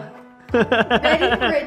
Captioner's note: laughs